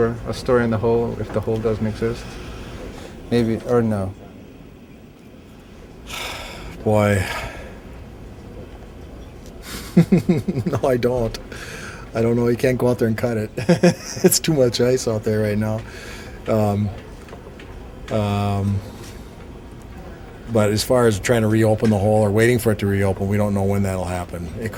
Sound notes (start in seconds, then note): 9.5 laughs